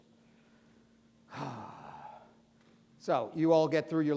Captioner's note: sighing